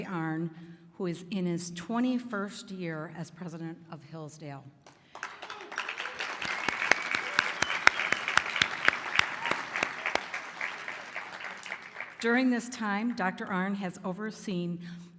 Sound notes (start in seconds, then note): 4.8 applause